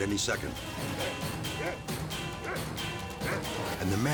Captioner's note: dog barks